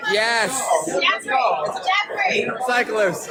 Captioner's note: echo